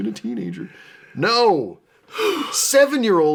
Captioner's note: exasperated sigh